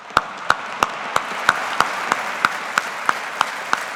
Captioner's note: audience applauding